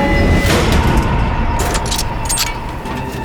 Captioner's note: locks clank